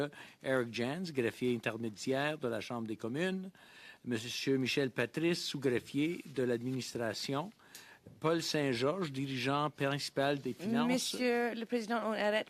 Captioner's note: speaking French